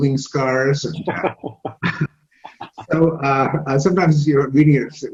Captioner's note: laughs